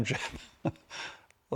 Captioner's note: chuckles